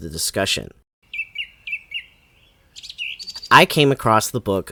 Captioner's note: bird chirping